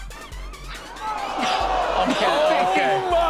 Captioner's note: audience groans